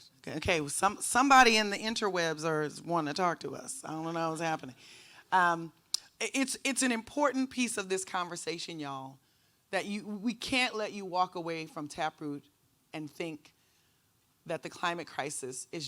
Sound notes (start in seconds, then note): none